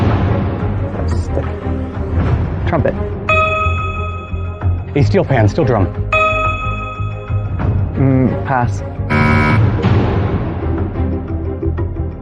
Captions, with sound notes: Stick. Trumpet. A steel pan, steel drum. -Pass. -(BUZZER SOUNDS)